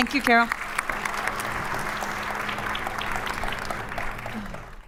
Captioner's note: audience applauding